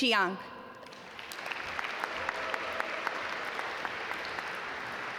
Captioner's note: audience applaud